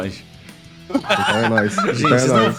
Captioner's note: laughter